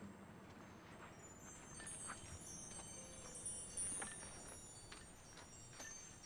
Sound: bells chiming; soft instrumental music

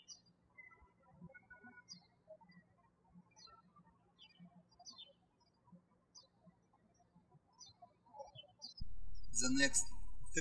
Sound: birds chirping

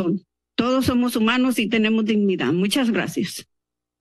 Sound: speaking in Spanish

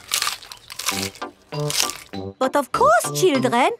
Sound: munching

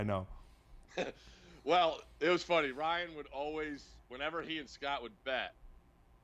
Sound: laughs

